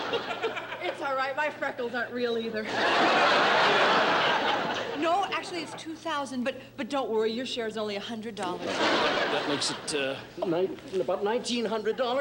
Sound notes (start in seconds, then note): 2.6 laughter